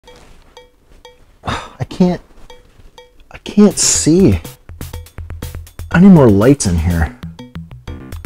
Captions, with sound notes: *scoff* I can't... I can't see! I need more lights in here